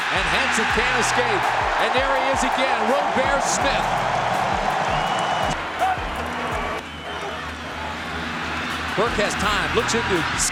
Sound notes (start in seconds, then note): 3.9 crowd reacting to game